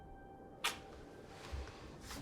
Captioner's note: kiss